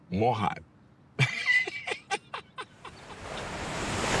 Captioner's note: laughs